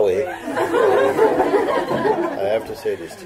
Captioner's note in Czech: Smích